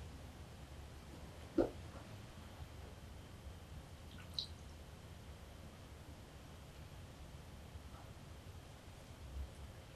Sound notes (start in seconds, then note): 4.0 water trickles